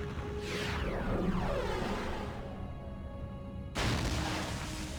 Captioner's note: explosion